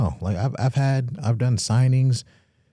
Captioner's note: none